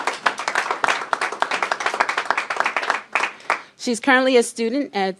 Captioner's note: applause